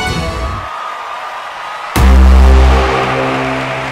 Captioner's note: All cheering